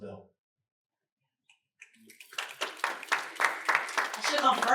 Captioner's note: snaps and applause